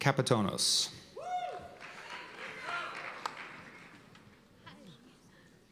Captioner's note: cheers and applause